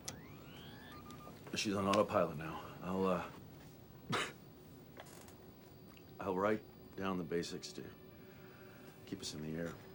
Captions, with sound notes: She's on autopilot now. I'll... (Co-pilot coughs) I'll write down the basics to keep us in the air.